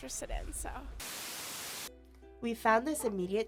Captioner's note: static buzzes